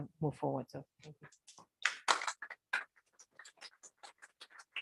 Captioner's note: applause